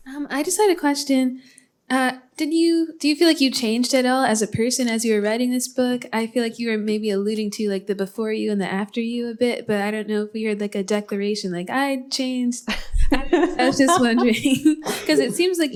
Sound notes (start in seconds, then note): 13.2 laughs